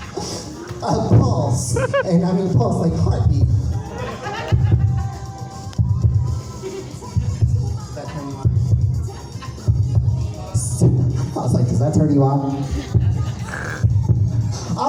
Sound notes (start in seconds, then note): 0.0 audience laughs; 4.1 host making heartbeat noise with microphone; 13.4 more heartbeat sounds